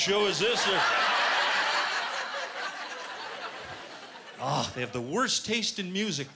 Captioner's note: laughter